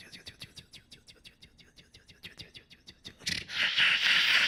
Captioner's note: beatboxing